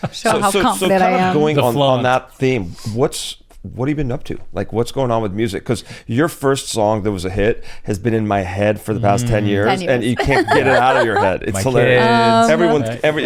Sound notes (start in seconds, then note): 0.0 laughs; 10.1 laughs